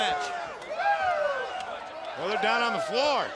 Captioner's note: spectators cheer